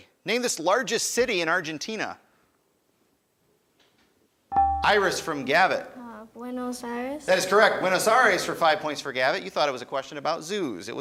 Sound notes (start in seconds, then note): 4.6 buzzer chimes